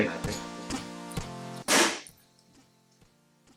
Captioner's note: smashing sound